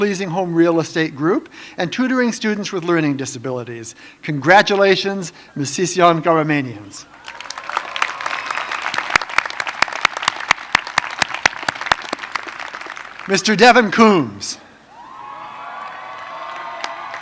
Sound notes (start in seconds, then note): 13.6 applause